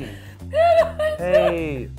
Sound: mumbly crying

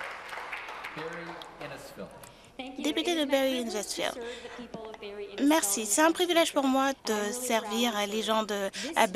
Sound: applause

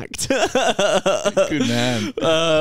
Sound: laughs

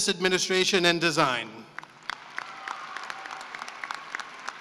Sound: cheering and applause

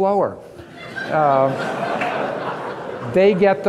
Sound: audience laughing

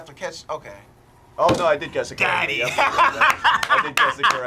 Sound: laughs and claps

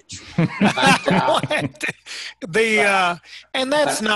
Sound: all laughing

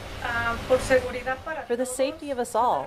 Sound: speaking in Spanish

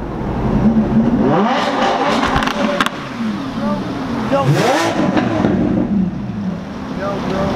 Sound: revving engines

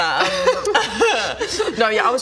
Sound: cries

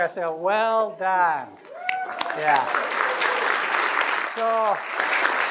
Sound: applause

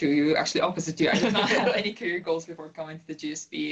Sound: laugh

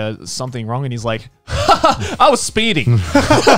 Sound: laughing

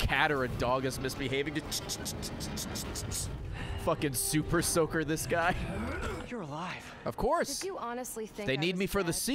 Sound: spray bottle noises

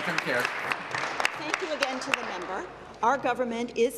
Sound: applause

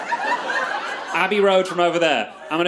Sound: crowd laughs

